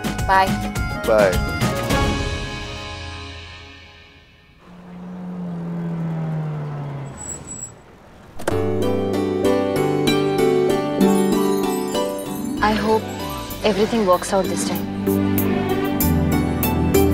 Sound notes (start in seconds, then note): 4.1 Car approching; 7.1 Car halt; 8.3 Car door opens